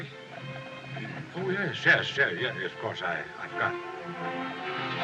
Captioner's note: clears Throat